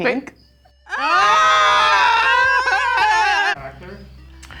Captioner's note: screaming